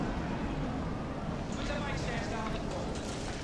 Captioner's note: wind blowing